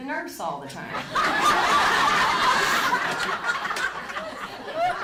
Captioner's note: audience laughing